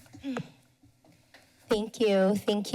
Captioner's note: clears throat